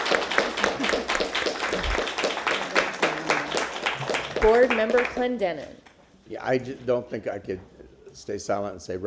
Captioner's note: applause